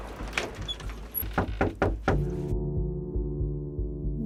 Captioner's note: opening creaky screen door, knocking on door